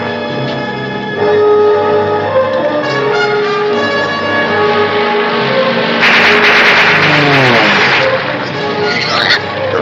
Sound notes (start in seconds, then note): 3.0 plane zooming; 6.0 gunshots